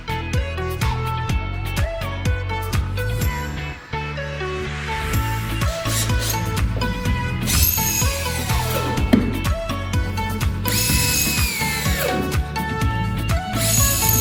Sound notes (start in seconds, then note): 6.9 drill whirs